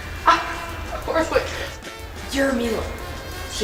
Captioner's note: laughs